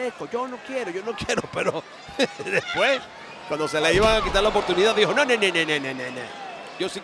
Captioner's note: laugh